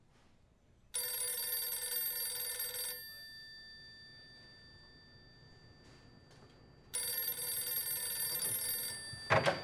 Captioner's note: phone rings